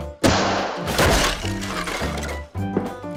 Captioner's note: crashes